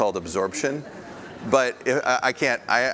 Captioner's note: audience laughs